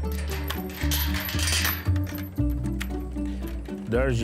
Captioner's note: chain rattling